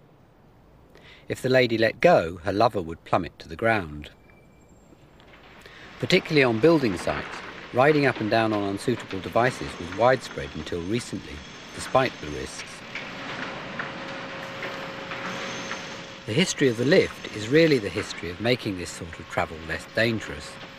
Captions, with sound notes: If the lady let go, her lover would plummet to the ground. Particularly on building sites, riding up and down on unsuitable devices was widespread until recently, despite the risks. [construction noise] The history of the lift, is really the history of making this sort of travel less dangerous.